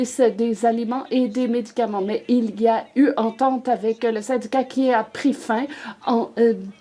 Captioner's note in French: voix de l'interprète